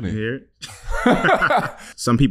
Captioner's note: laughing